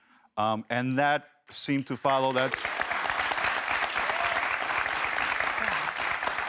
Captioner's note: audience applauds